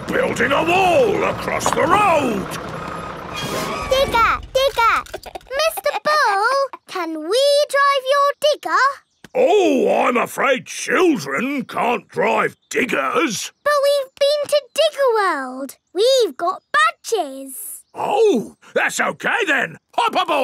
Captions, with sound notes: We're building a wall across the road! Digger! Digger! (CHUCKLES) Mr. Bull, can we drive your digger? Ooh, I'm afraid children can't drive diggers! But we've been to Digger World. We've got badges! Oh! That's okay then.